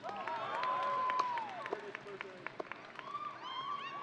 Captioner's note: audience cheering